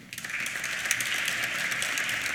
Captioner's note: applause